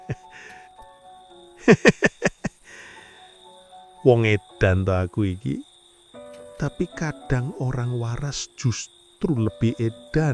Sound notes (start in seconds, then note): 1.6 laughs